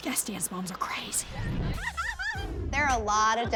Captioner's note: cackles